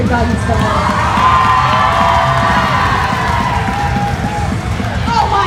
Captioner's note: cheering